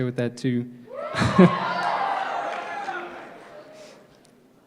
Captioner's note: crowd cheering